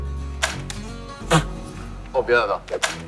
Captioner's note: laughing!